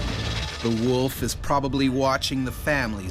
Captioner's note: voiceover